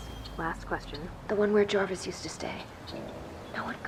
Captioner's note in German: Voiceover